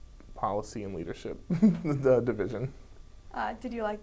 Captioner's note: laughs